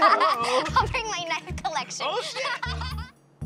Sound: laughs

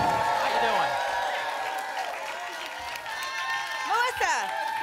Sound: applause and cheering cont

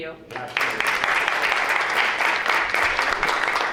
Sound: applause

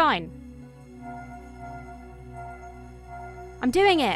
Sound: magic ringing

